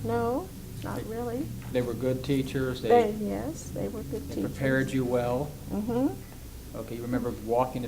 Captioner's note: affirms